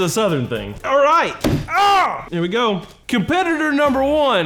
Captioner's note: yelling